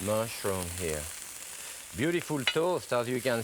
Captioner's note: skillet sizzling